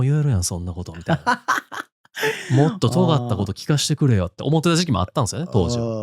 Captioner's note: laughs